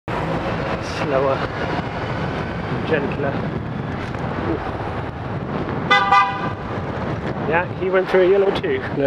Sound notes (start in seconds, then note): 5.9 beeps horn